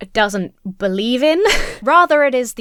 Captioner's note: laughs